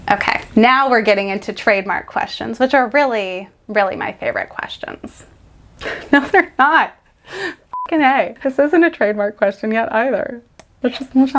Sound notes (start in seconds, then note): 7.2 laughing; 7.7 sound beeps